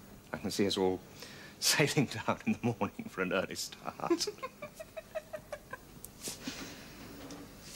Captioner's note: both laugh